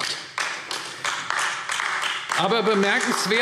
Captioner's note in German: Beifall AfD